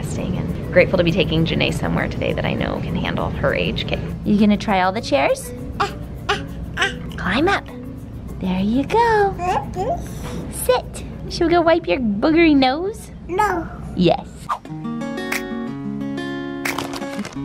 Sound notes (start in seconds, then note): 5.7 coos; 9.3 babbles; 14.4 chill music